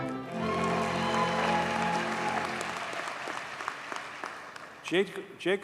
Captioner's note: audience cheers and applauds